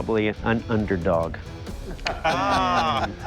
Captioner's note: laughter